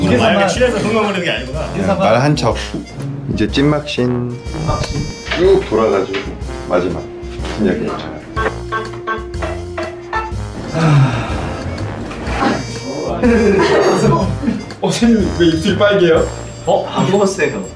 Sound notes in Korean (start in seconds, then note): 10.7 깊은 한숨; 13.1 웃음소리